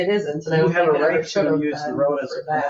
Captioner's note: people chattering